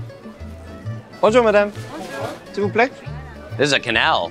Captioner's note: speaking in French